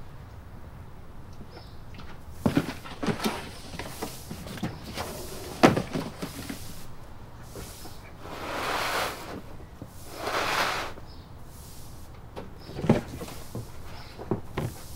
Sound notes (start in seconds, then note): 2.4 thudding sounds; 8.2 scraping sounds